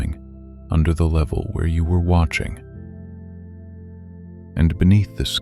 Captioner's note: low voice